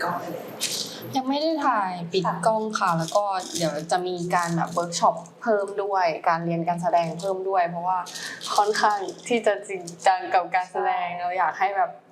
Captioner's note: Girls responding in Thai